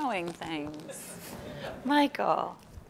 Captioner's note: laughing